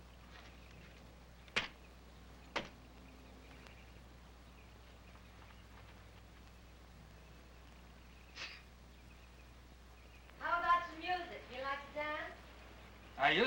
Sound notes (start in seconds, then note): 8.4 Rance chuckles